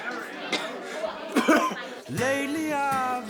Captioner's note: coughing